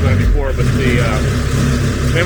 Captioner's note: machine revs